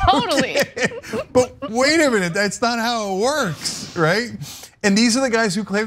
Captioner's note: laugh